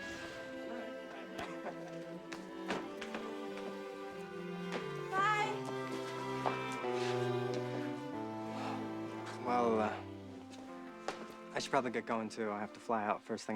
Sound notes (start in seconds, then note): 8.5 sigh s